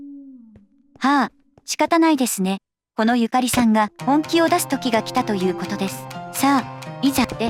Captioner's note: sighs